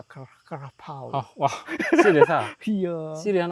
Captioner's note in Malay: ketawa